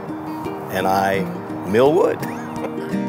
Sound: laughs

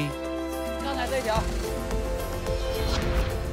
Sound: speaking Tibetan

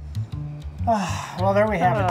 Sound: sighs

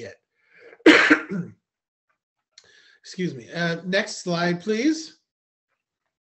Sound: coughs

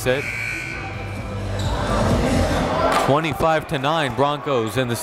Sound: buzzer dings

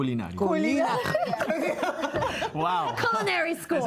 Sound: Risas

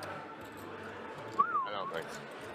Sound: whistling

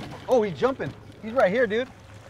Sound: reel cranking

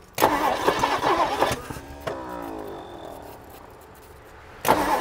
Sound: engine struggling to start

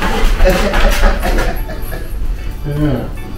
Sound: laughs

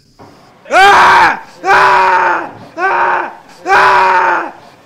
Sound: man screaming

